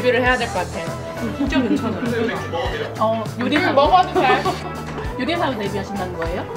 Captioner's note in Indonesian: semuanya bergumam